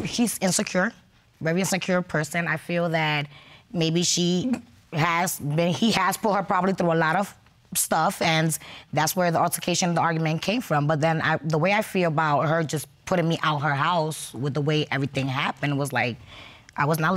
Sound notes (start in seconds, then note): none